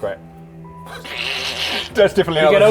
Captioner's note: doubtful sniggering